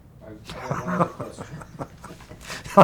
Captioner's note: laughs